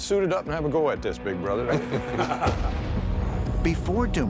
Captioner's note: laughter